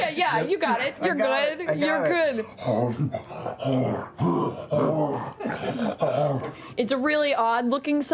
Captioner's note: heavy breathing